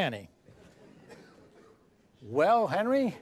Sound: laughter

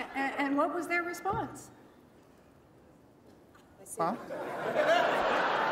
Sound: laughter

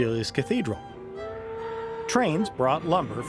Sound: train horn hooting

